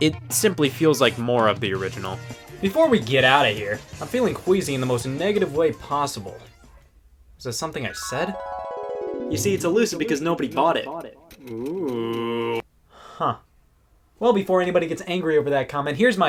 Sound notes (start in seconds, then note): 8.0 chimes tinkling